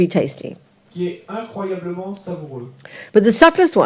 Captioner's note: French